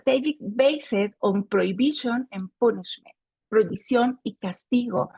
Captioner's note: speaking Spanish